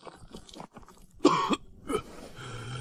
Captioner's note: cough